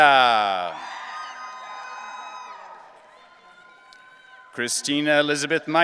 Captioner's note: audience cheering